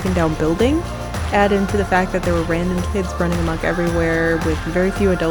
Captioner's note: sound goes out of balance